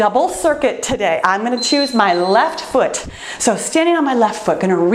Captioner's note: timer beeps